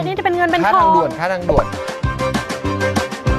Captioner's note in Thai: เสียงเอฟเฟกต์